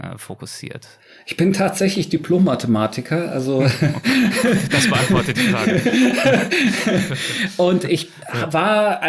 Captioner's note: chuckling